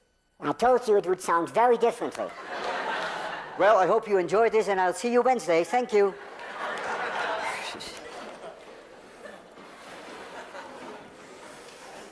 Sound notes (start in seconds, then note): 0.0 in very high voice; 2.2 class laughs and applauds; 6.2 class laughs